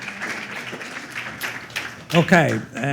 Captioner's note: applause